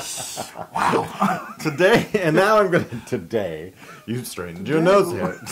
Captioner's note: laugh